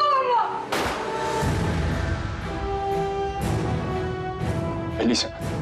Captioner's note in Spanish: Disparo